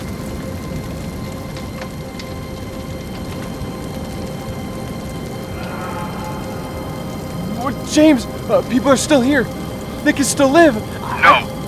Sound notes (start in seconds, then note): 5.6 man screaming